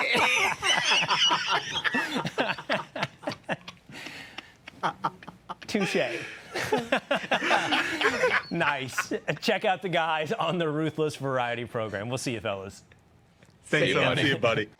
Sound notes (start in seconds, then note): 8.0 laughter